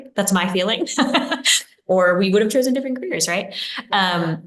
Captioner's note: laughs